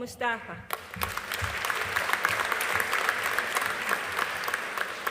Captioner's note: audience applauding